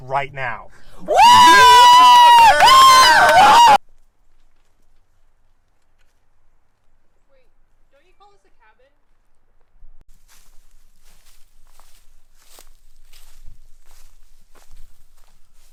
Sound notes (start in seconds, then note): 3.1 cheering and Applause